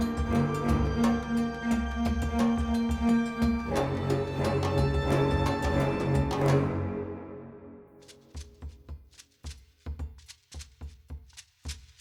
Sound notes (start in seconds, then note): none